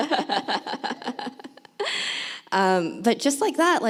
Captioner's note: laughs